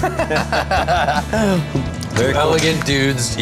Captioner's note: laughing